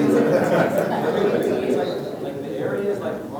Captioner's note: laughs